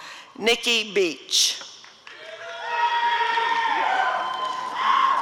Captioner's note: applause and cheering